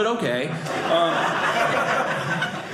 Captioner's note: audience laughing